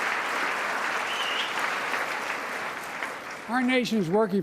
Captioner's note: applause